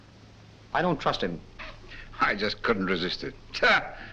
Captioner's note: laughs